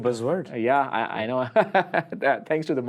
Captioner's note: laughs